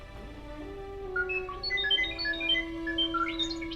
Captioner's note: R7 chirping